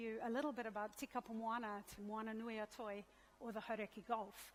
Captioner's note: speaks in a foreign language